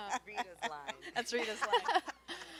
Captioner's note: ladies laughing; voice fades